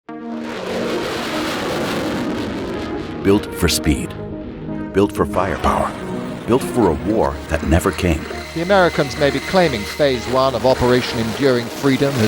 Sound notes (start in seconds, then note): 0.5 jets roaring